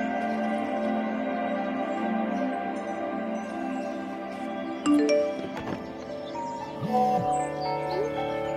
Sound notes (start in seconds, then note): 0.0 suspenseful music; 4.8 notification